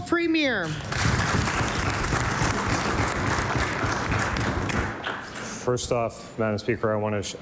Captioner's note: applause